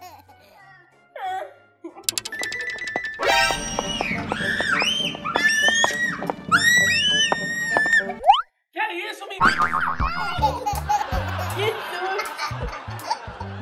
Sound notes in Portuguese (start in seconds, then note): 4.4 Gritos; 9.4 Som de mola; 9.6 Risadas ao fundo